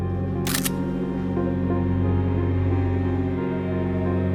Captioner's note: camera snapping